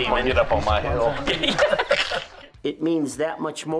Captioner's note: laughing